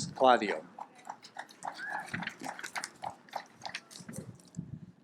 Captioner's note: audience applauds